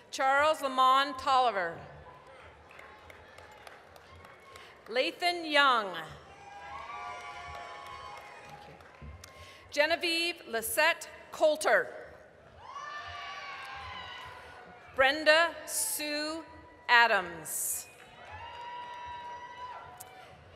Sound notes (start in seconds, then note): 2.0 applause; 6.2 applause, cheering; 12.7 applause, cheering; 17.9 applause, cheering